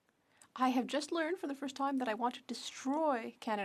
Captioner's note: speaking French